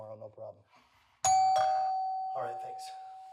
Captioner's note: doorbell rings